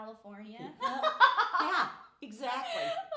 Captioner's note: laughing